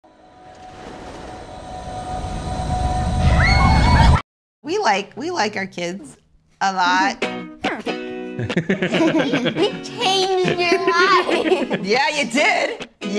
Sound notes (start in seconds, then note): 0.1 suspenseful music; 3.2 daughter screams; 8.3 family laughs; 8.4 upbeat music